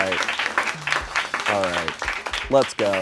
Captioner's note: crew applauds